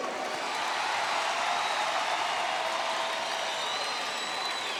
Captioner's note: crowd cheers